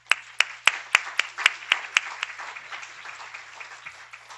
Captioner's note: applauds